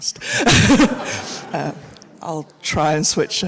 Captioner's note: laughs; audience laughs